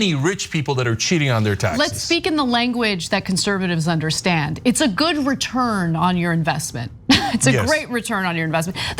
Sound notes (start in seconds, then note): 7.2 laugh